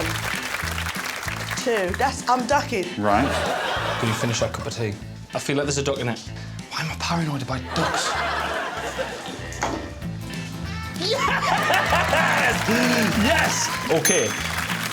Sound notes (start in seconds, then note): 11.0 laughs